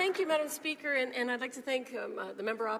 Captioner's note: speaking French